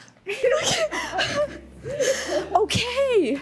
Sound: chuckles

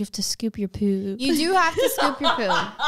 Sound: laughs

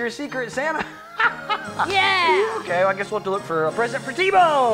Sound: laughs

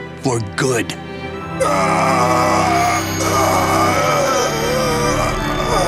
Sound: screaming; groaning

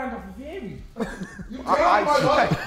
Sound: Sidemen laughing

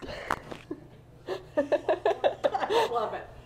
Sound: laughing

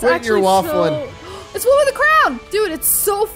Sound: gasping

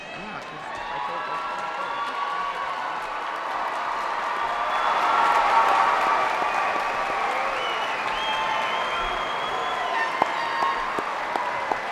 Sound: cheers and applause

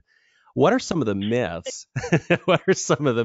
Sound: both laugh

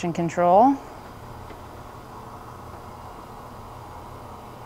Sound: bed motor running

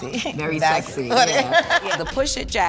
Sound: laugh

